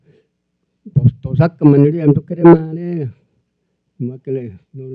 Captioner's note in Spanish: Expositor habla en lengua indígena